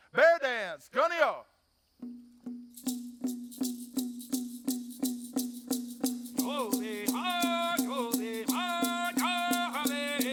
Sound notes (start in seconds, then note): 0.9 speaks foreign language; 2.0 drums pounding; 2.5 rattles rattling; 6.4 lead dancer chanting